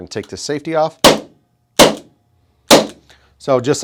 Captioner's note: gun fire